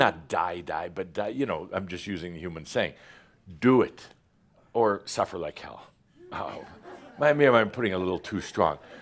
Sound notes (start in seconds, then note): 5.6 a few chuckles